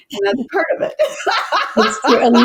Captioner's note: laughs